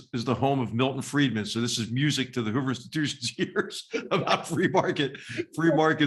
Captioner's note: laugh